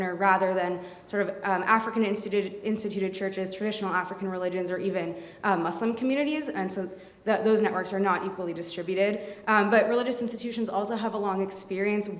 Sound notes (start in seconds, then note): none